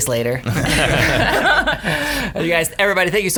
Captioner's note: laughing